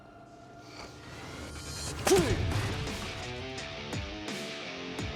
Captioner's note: grunting